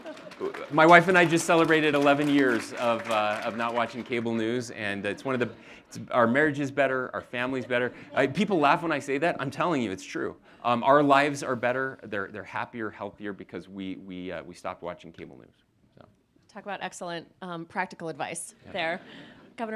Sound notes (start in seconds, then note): 4.0 audience applauding